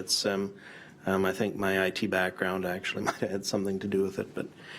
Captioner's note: chuckles